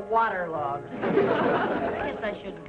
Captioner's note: audience laughing